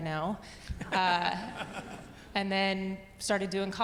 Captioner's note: audience laughing